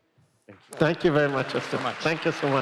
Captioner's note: applause